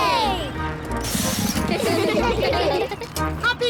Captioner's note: all giggling